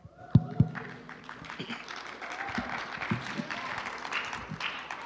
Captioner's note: applause